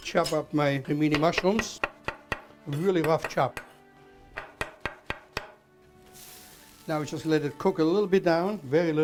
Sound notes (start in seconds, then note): 0.0 sizzling; 4.4 chopping